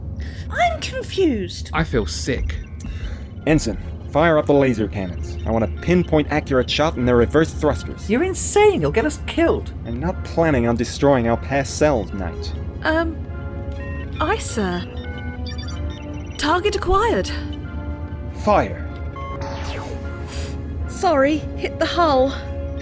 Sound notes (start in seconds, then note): 19.4 laser noise